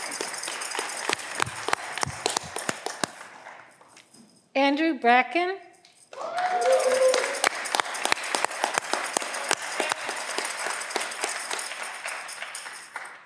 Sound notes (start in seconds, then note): 7.7 audience clapping